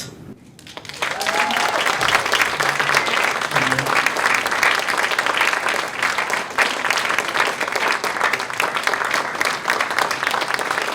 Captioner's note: applause